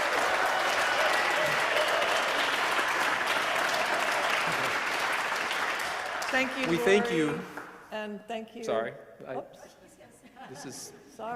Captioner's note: applause